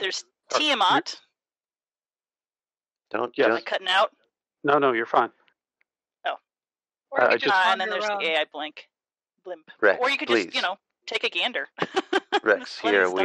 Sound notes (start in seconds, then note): 10.5 laughs